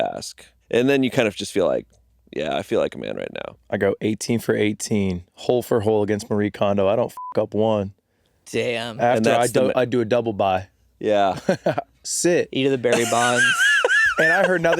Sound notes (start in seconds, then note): 7.3 beeping